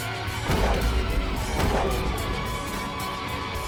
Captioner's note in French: tirs d'armes à feu